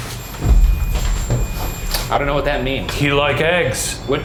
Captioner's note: REM-pod beeps